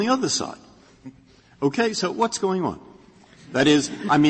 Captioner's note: laughter